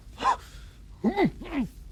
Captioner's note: Montoya gasps